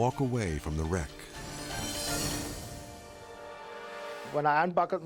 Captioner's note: scene swooshing